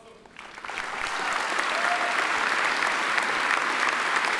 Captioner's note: attendees applaud